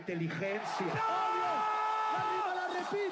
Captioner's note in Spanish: Vítores